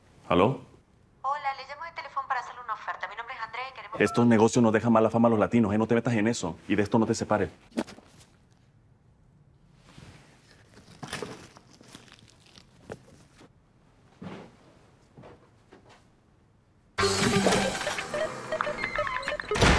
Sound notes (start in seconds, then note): 19.3 door closes